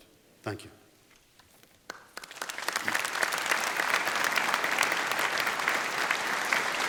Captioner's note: applause